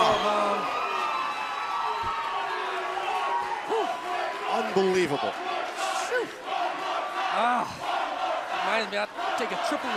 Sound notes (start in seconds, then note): 5.6 crowd cheering